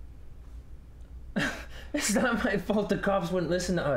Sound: laughs humorlessly

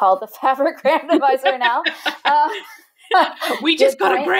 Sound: laughing

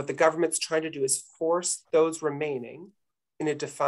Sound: none

